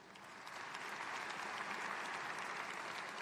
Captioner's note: applause